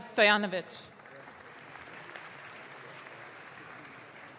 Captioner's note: audience claps